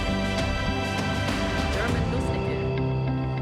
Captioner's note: speaking German